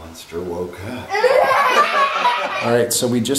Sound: kids laugh

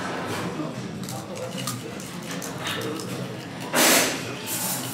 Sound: Crunch

